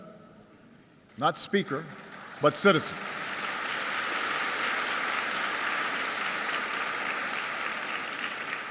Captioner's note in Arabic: تصفيق